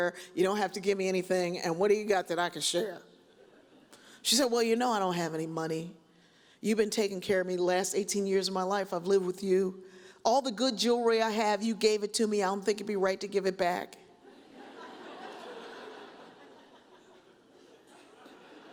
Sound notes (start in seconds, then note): 14.4 audience chuckles